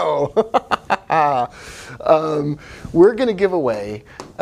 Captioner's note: laughing